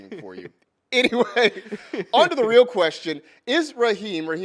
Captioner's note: laughs